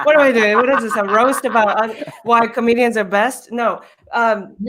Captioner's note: murmurs